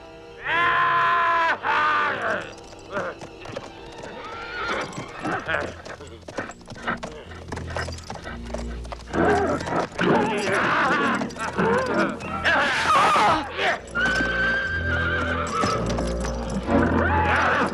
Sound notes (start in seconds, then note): 0.7 cavalier shouting; 4.3 horse neighs; 5.7 cavalier laughing; 10.3 cavalier shouts; 14.2 horse neighs